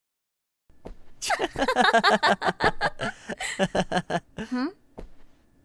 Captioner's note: laughing